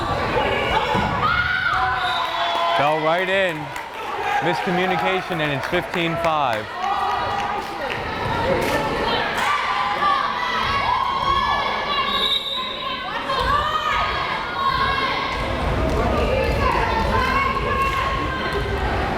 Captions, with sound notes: (player shouting) Fell right in. Miscommunication and it's 15-5. (whistle blares)